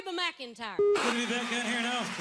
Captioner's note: beeping TV static